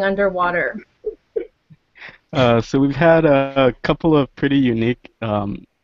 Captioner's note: laugh